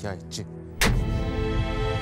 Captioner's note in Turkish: Tokat sesi